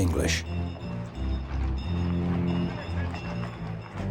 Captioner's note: streetcar dinging